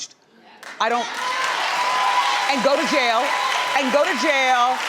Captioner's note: audience cheering